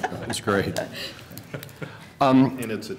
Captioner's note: laughter